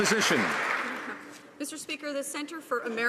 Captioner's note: some Applause